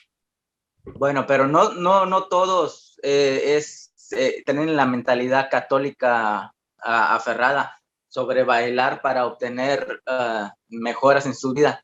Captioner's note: continues in Spanish